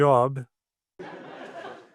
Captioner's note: laughter